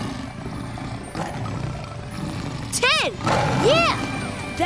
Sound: growling

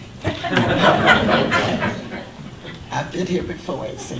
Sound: audience laughter

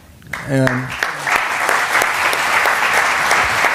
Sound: applause

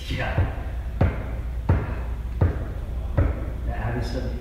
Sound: laughs

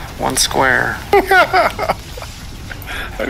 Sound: distressed laughter

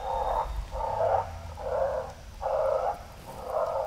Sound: growling

